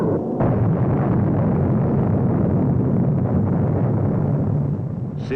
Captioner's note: booming explosions